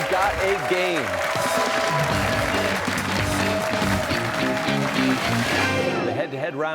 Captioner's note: cheers and applause